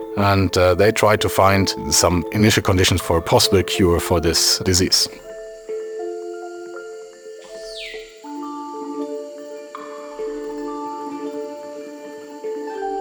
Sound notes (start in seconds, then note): 7.3 bird chirps; 9.5 soft music continues